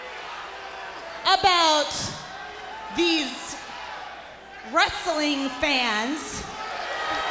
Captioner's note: crowd booing